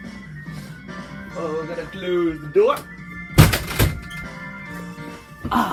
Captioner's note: door